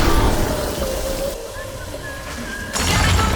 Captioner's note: whistling